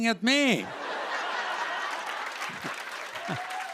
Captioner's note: laughter; applause